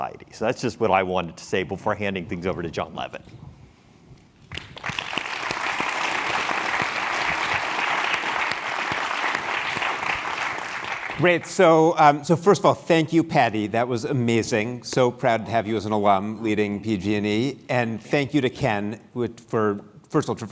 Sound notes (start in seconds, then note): 8.7 applause